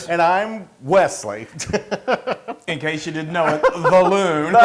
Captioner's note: laugh